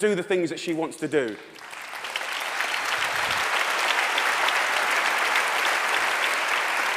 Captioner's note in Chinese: 掌聲